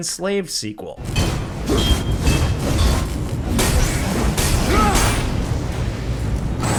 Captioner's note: tense dramatic music; blows thudding